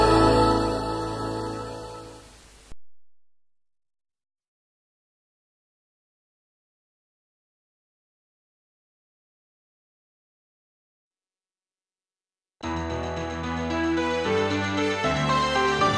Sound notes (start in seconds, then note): 3.0 silence; 12.7 majestic music plays